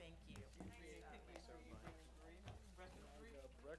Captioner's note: chatter